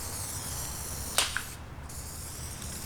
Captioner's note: smacks can on ground